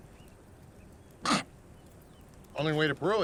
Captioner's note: coughs